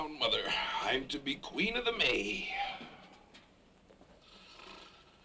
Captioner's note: snores